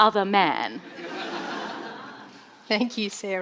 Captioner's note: audience laughing